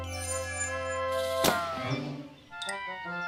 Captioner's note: whizzing